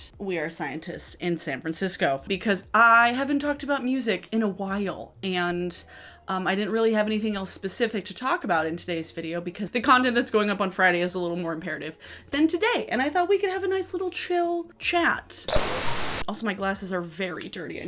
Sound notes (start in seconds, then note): 15.5 static